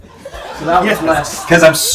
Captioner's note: laughter